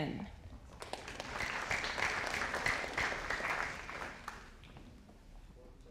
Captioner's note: audience applauding